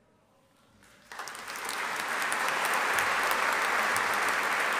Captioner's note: audience applauding